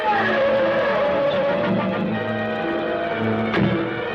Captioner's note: tires screeching